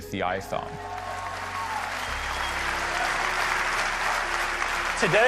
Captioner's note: audience cheering